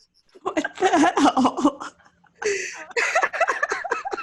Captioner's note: laughs